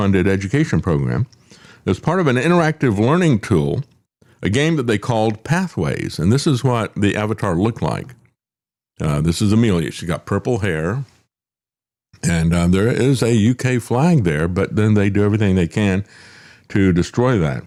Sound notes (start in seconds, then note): none